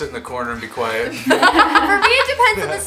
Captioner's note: laughs